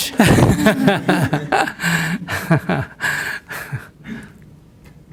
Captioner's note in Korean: 스님/질문자 웃음